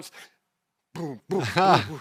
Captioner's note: laughs